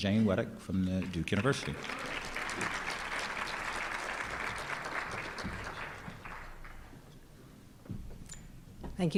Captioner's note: applause